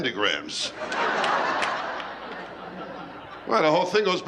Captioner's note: laughter